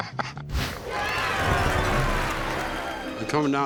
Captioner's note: laughing; people cheering